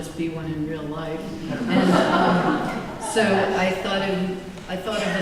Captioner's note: laughter